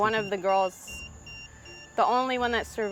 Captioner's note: EMF beeping